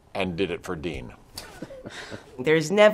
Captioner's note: Selena and Martin laughing